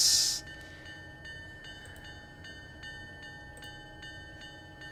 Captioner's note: train whistle